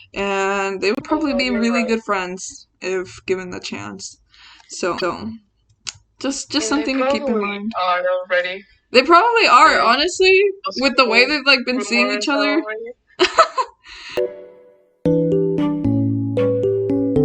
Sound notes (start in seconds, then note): 14.3 laughs; 15.1 music playing